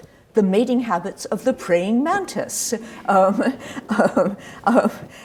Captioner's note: laughs